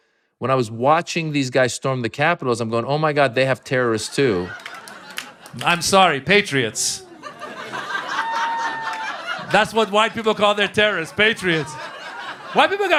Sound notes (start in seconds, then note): 4.3 soundbite of archived recording; 6.4 laughter